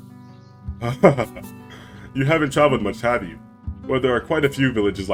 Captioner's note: chuckles